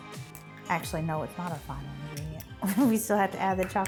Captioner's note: chuckles